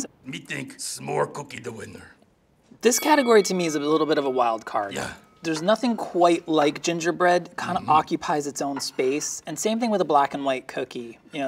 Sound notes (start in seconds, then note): 2.8 bell pings